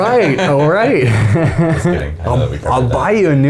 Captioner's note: laughing